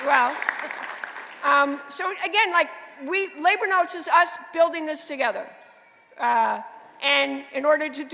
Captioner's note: applause